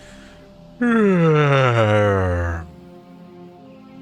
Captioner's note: yawn